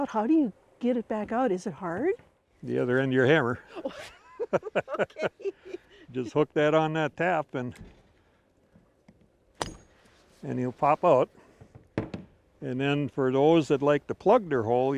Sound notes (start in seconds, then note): 3.6 laughing; 7.5 wood thudding